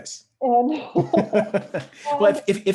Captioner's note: both laugh